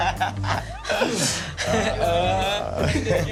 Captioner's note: laughter